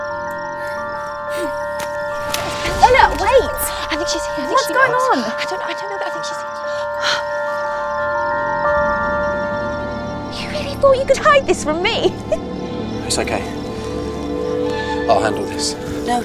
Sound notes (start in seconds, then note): 6.8 tense music; 11.8 laughs